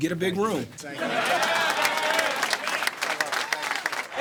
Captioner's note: cheers and applause